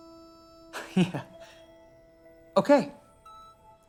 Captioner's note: laughs